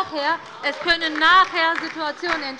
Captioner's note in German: Beifall bei der LINKEN